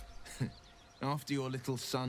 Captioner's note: laughs